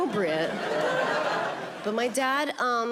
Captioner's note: audience laughing